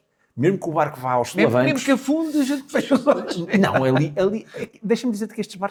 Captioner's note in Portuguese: risadas